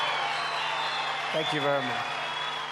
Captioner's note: cheers & applause